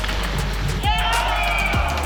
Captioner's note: people cheer; sticks clatter